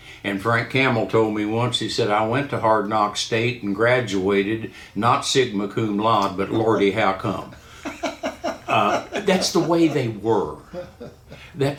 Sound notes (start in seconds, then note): 7.8 laughing